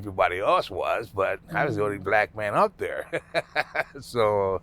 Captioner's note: laughing